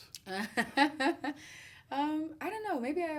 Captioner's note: laughs